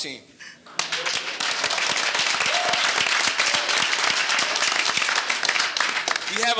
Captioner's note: audience cheering and applauding